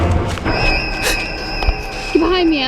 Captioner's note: Mollie gasps